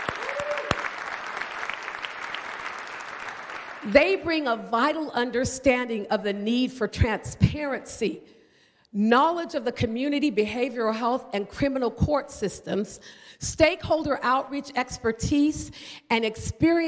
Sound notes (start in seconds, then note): 2.7 applause